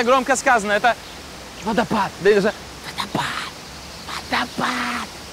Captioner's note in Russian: говорит шепотом